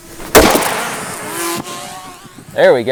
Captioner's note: loud bang